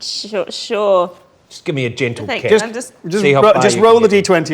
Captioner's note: overlapping chattering